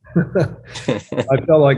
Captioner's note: laughter